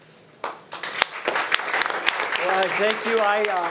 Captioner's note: audience applauding